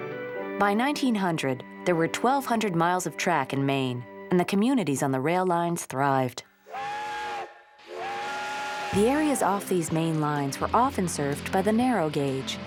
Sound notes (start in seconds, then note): 6.6 train whistle blowing